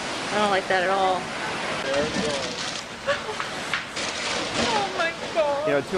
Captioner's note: weepy